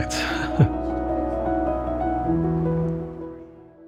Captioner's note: faint chatter